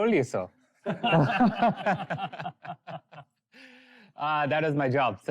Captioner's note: laughter